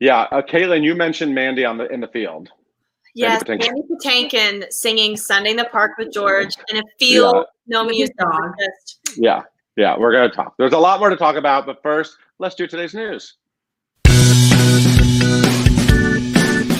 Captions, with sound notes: - Yeah, Caitlin, you mentioned Mandy in the field. Mandy Patinkin. - Yes, Mandy Patinkin singing "Sunday In The Park with George" in a field. No music, was just (smacks). - With his dog. - Yeah, yeah, we're gonna talk. There's a lot more to talk about, but first, let's do today's news. (upbeat music)